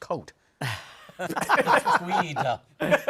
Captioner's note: laughter